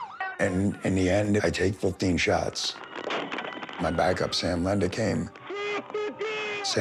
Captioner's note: gunshots; shouting